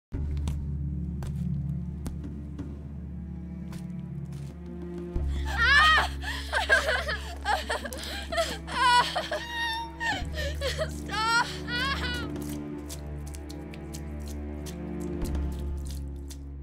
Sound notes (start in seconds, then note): 0.6 spooky music playing; 5.3 woman screaming and sobbing; 11.0 sounds of blood splattering